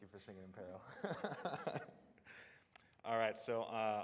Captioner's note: laughs